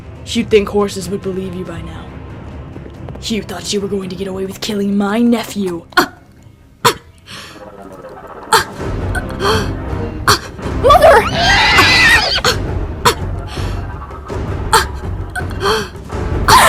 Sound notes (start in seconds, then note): 5.9 choking; 10.8 horse scream